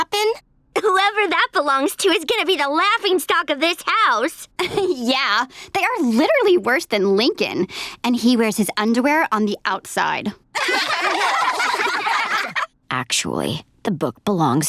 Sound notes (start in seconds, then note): 10.5 laughing